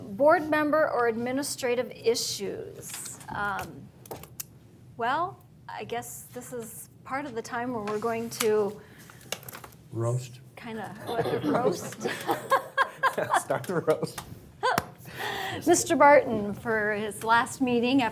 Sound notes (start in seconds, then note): 11.0 laughing